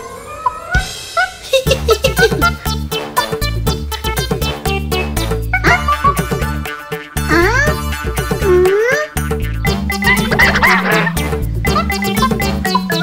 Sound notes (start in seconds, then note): 1.0 monkeys chatter